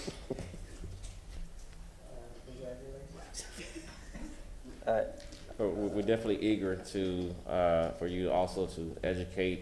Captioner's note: laughter